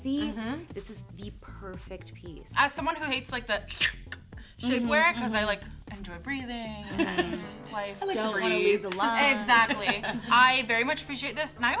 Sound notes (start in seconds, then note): 4.3 slurps